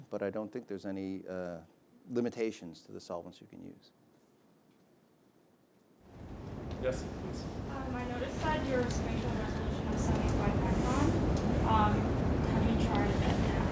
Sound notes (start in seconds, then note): 11.1 speaking faintly